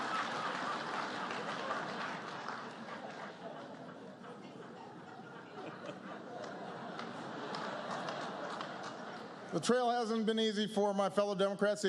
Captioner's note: laughter, applause